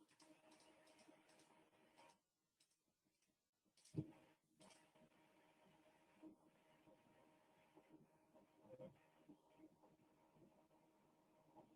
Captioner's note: 17 seconds pause